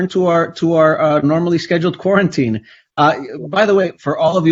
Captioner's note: laughs